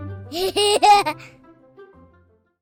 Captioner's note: laughter